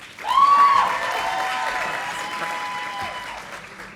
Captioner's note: audience applauding